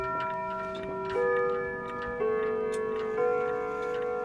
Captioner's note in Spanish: relojes sonando